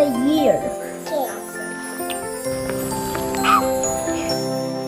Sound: talks quietly

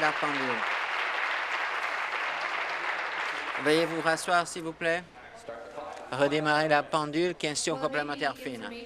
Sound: applause

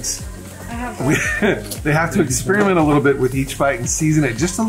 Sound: laughs

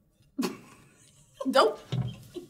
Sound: chuckling

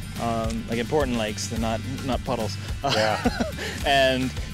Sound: laughs

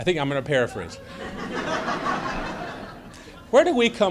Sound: laughter

